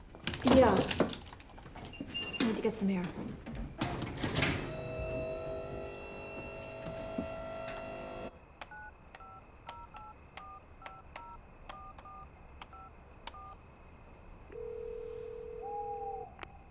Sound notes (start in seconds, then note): 3.7 elevator buzzing; 8.5 dialing; 14.5 line ringing; 15.2 owl hooting